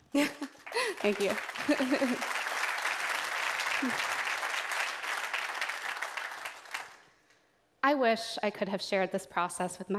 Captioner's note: applause